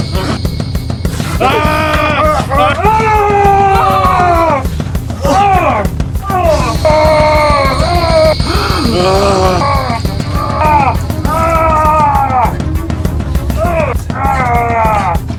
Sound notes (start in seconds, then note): 2.1 both yelling; 6.5 monster roaring